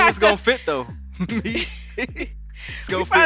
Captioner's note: laughs